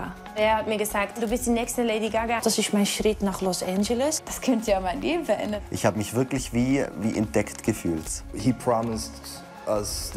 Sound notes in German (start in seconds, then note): 8.5 englisch